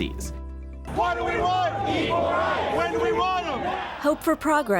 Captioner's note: protestor's chanting